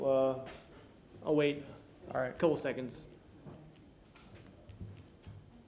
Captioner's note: sounding gavel